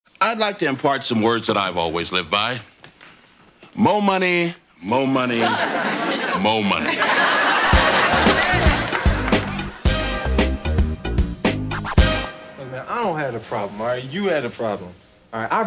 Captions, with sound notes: I'd like to impart some words that I've always lived by. Mo' money, mo' money, mo' money. (audience laughing) (funky upbeat music) Look, man, I don't have a problem, all right, you had a problem.